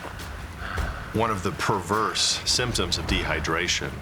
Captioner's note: panting heavily